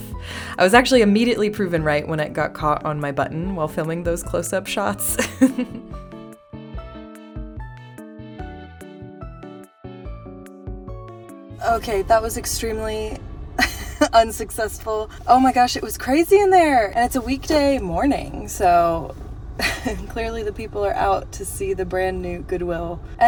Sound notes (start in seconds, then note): 5.1 laugh; 13.6 laugh; 19.6 laugh